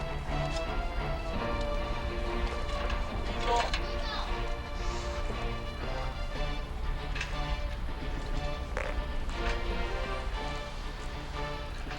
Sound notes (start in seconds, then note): 3.9 people chatter indistinctly; 7.4 dramatic music